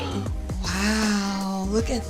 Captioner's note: gasps